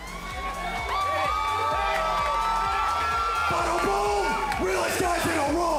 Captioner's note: cheers & applause